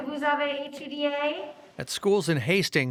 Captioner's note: speaks in foreign language